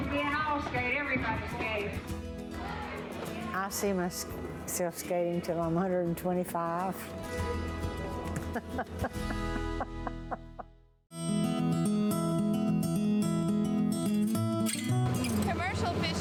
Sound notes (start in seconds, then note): 7.2 laughing; 12.9 peaceful music